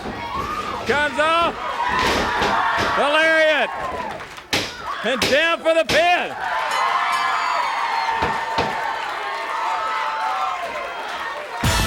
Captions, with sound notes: Comes off. (audience cheering) (bodies thudding) There it is. And down for the pin. (audience cheering) (bell rings)